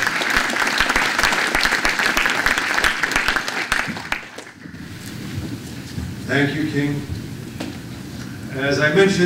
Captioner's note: applause